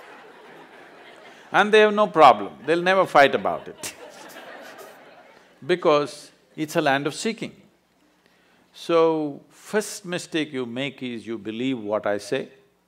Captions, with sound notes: and they have no problem, they’ll never fight about it (Laughter) because it's a land of seeking. So first mistake you make is you believe what I say.